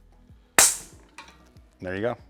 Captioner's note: popping